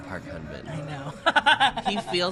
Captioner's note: laughs